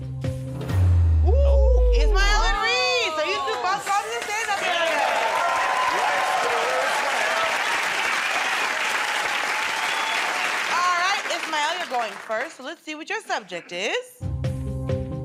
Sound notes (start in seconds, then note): 8.3 cheers and applause